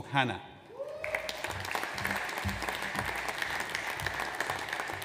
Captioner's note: audience applauds